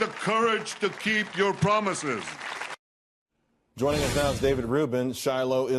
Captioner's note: applause